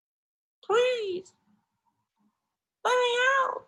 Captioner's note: small voice